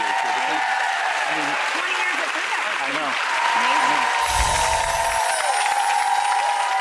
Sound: crowd applauding drowns out speakers

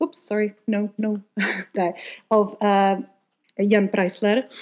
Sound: laughs

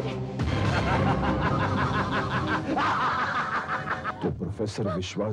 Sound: laughs

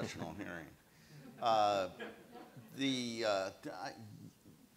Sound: audience laughs

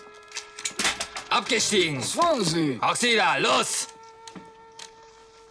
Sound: in German

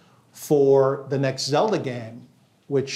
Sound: none

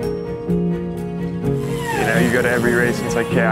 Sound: cyclist zooming

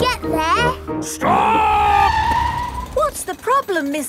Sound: tires screeching

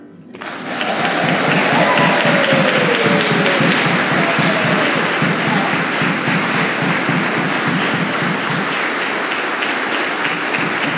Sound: applause

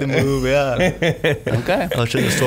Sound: laughing

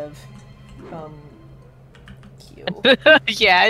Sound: muttering about keybinds

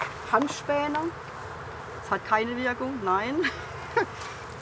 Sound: laughing

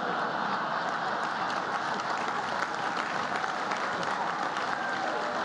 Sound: laughter and applause

